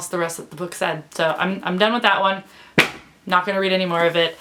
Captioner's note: sound of book hitting floor